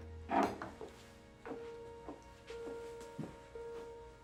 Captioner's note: heels clack